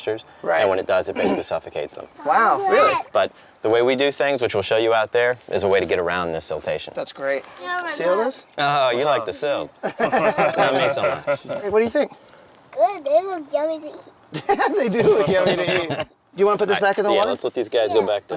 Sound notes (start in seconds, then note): 14.3 laughs